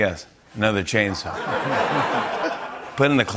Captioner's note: laughter